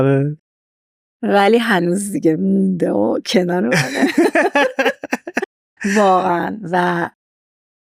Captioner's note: laughs